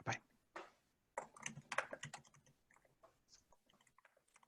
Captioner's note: typing